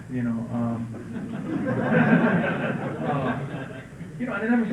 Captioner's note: laughter